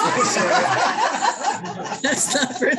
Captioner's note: laughter